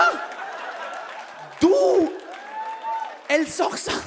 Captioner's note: audience claps and cheers